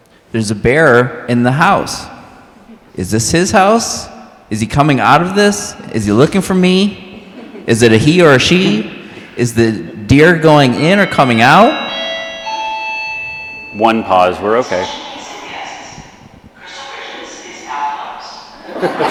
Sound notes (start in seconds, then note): 12.0 PA system chimes; 15.9 PA announcement plays